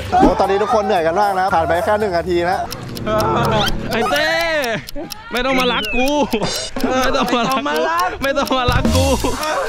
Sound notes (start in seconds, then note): 3.0 exhausted